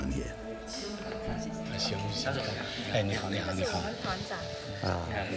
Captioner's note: all speaking foreign language